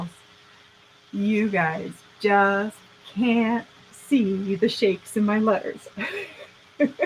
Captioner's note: laughing